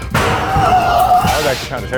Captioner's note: monster shrieking